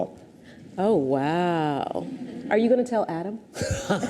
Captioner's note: audience titters